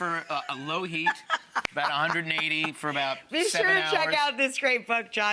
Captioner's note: laughing